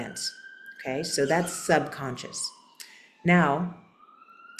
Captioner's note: sirens in background